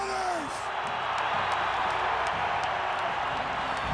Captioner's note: crowd cheering